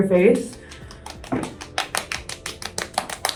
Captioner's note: skin tapping